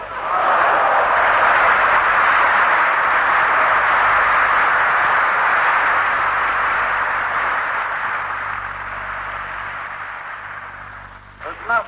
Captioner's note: applause